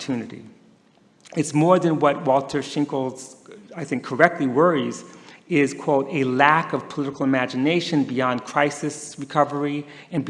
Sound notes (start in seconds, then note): none